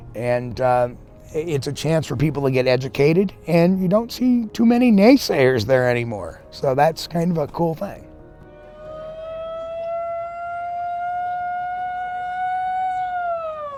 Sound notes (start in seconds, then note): 8.6 contestant whooping